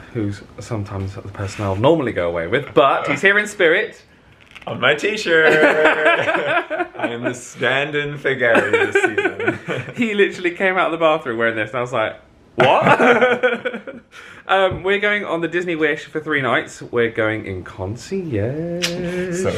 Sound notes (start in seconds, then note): 5.3 they laugh; 12.6 laughs